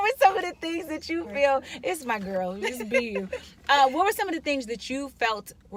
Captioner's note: laughing